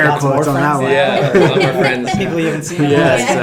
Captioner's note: laughing